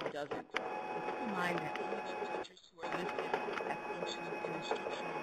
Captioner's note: audio interference